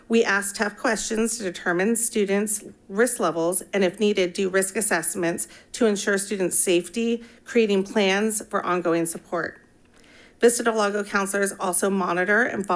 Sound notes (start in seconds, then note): none